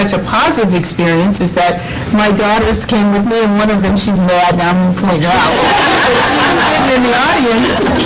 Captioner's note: laughter